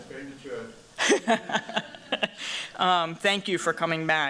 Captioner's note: laughs